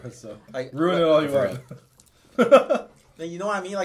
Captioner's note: laughs